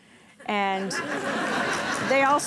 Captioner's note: audience laughing